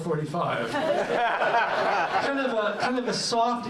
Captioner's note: laughter